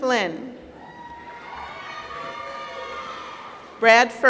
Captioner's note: applause